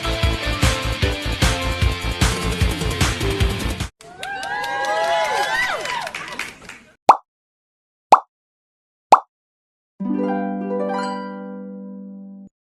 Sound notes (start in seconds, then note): 4.0 applause; 10.0 harps